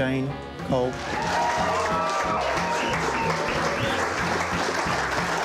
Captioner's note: applause